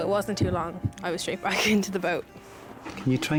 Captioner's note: chuckling